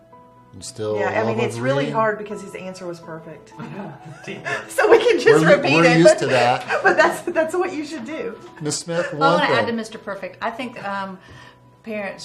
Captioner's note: laughter